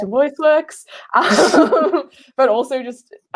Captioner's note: laughing